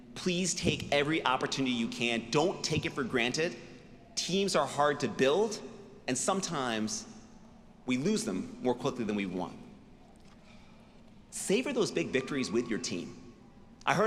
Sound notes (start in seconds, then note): none